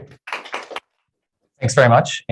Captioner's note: applause